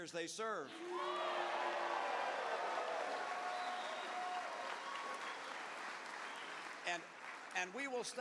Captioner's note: cheers